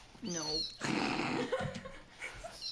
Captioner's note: snorts simultaneously